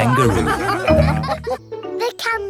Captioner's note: all laughing